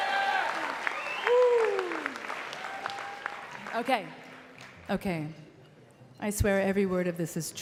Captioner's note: cheering and Applause